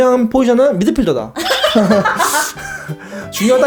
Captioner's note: hahahahaha